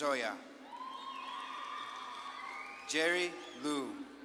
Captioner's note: audience claps and cheers